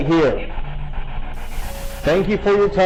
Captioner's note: static buzzing